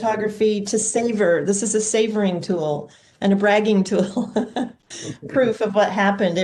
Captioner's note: laughs